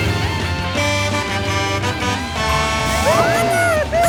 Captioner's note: horn honking